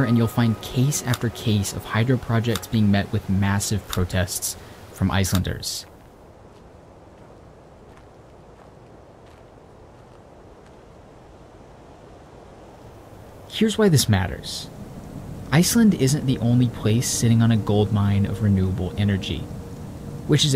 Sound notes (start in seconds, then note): 9.2 wind blows